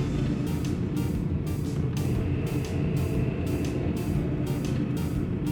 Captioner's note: sound of rocket blasting; sound of spaceship flying